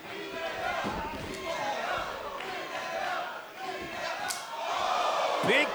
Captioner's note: fans chanting